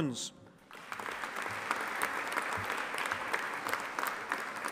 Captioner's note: audience applauding